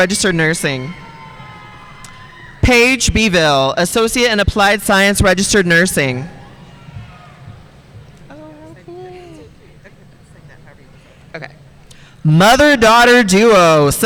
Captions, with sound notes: registered nursing. Paige Beville, associate in applied science, registered nursing. (speaking faintly) Mother daughter duo,